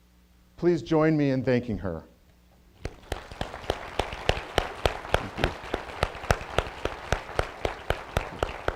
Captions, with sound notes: Please join me in thanking her. (applause)